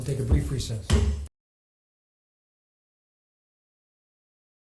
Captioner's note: gavel bangs loudly